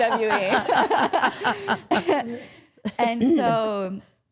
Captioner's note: all laughing